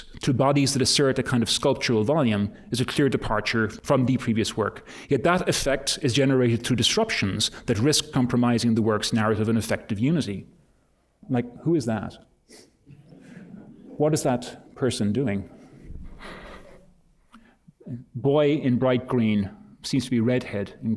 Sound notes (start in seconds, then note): 12.7 laughter; 16.4 laughter